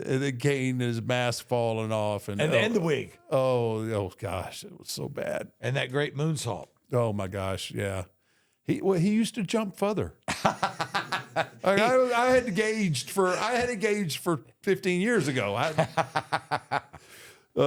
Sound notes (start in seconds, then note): 10.2 Michael laughs